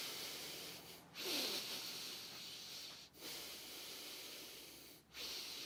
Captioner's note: heavy breathing